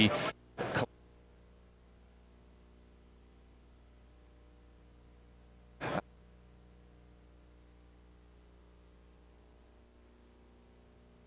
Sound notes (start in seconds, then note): 2.0 audio cuts out; 7.7 audio cuts out